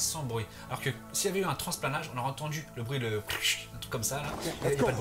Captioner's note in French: bruit de transplanage